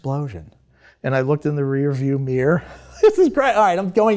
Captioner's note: chuckles